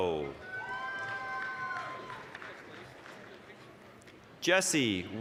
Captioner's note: applause, cheering